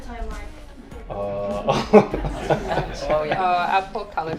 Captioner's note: laughs; group laughs